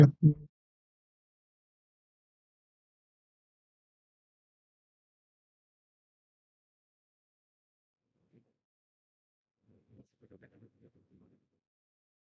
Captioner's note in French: Silence